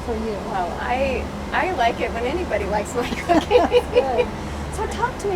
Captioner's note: laughing